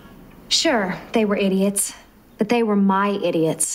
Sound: inner monologue

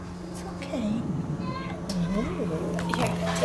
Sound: growl

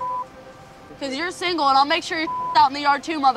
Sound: beep; beep

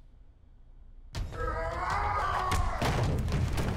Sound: grunting

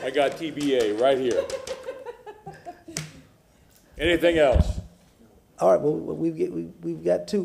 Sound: laughter

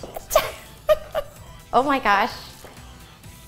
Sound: laughing

